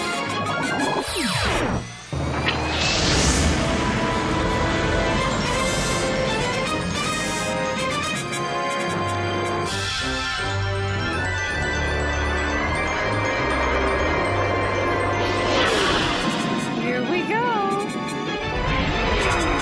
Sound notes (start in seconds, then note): 2.5 rockets roar